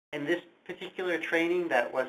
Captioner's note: voiceover